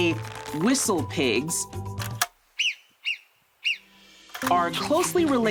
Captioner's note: groundhog whistling